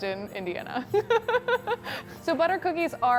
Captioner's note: laughs